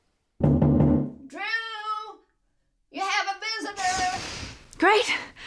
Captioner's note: knocking on door